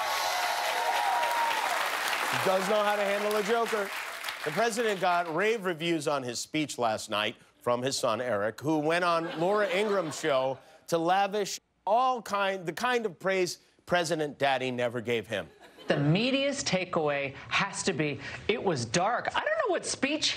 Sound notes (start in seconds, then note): 5.1 applause